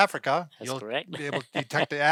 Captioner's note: laughing